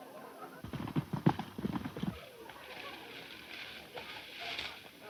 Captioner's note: horses galloping